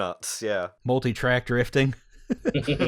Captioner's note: laughter